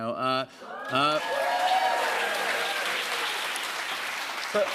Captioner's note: cheers and applause